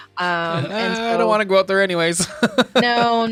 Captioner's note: laughing